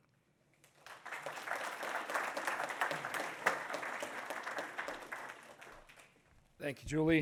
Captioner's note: audience applauds